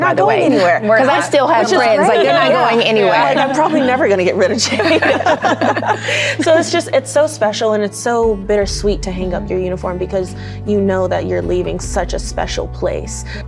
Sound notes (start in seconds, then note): 5.2 all laughing